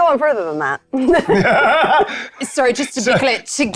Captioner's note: players laughing